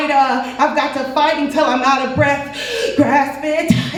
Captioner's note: inhales